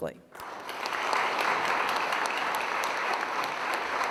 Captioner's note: audience applauds